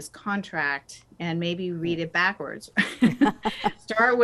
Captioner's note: both laugh